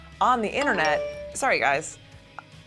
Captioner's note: message alert